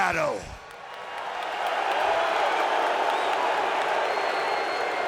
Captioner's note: audience jeers